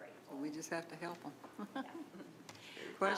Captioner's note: chuckles